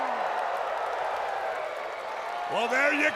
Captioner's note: crowd cheering